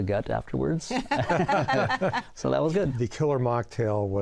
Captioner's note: laughter